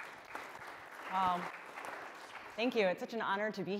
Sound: applause

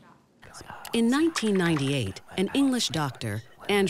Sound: voiceover

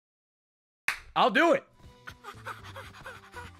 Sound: claps

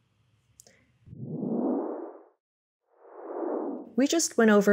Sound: whooshing sound

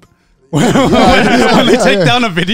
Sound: all laugh

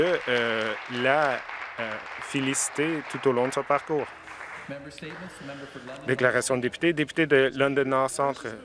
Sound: some Applause

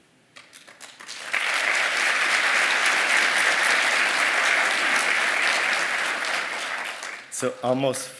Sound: applause

